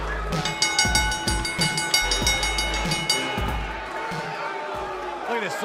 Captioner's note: bell ringing